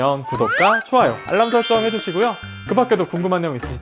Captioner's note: notification